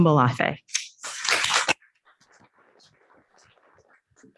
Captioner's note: audience clapping